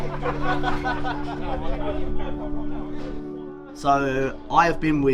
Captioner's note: group laughing